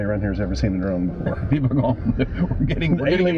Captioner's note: laughter